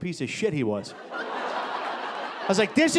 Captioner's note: audience laughing